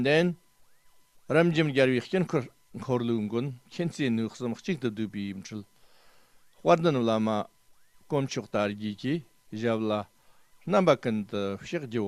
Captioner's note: tibetan